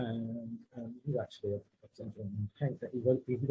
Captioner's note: faintly speaking